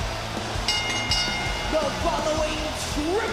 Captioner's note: bell rings